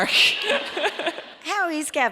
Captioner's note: audience laughs